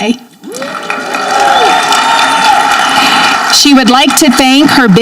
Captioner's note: audience clapping